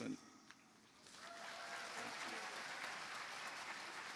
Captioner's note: cheering, applause